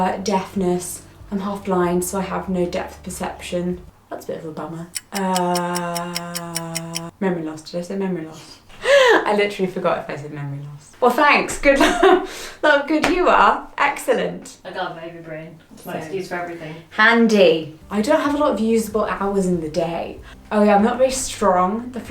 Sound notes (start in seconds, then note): 4.9 clock ticking; 9.0 laughs